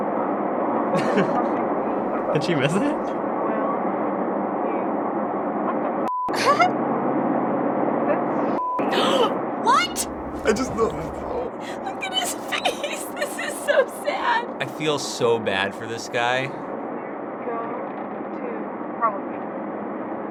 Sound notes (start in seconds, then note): 0.9 chuckling; 6.3 giggles; 8.8 shocked gasp